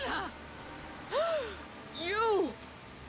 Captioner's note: gasp